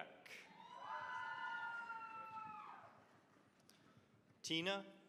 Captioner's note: cheering, applause